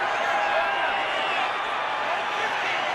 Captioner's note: cheering